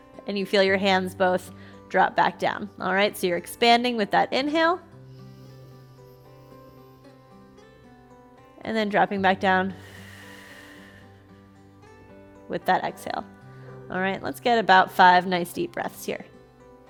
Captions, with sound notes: and you feel your hands both drop back down. All right, so you're expanding with that inhale. And then dropping back down (exhales) with that exhale. All right, let's get about five nice deep breaths here.